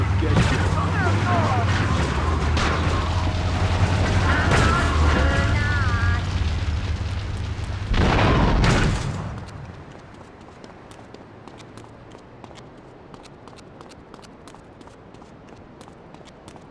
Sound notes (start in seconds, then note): 0.0 gun firing